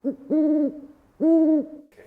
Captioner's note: 𝘖𝘸𝘭 𝘩𝘰𝘰𝘵𝘴